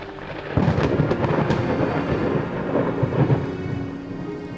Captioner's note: thunder storm